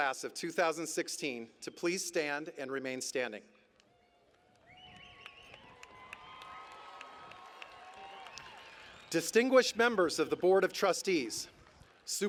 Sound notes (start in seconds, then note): 3.8 cheering and Applause